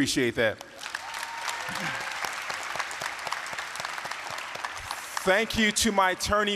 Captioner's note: applause, cheering